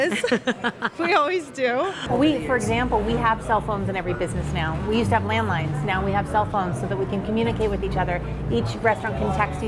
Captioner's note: laughs